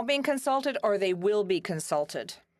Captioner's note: speaking French